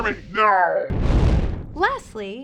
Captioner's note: explosion noise